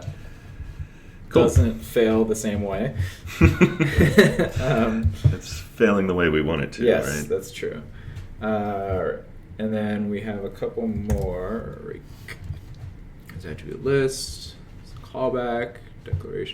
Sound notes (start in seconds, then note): 3.3 laughter